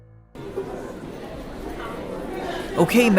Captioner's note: students chattering